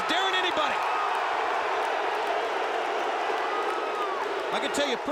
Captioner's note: applause